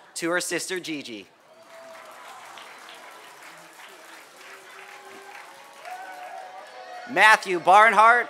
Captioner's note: applause